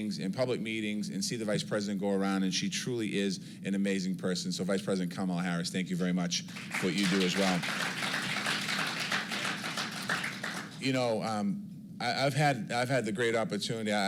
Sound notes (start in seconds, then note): 8.0 applause